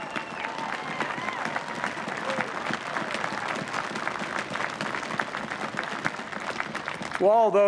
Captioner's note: applause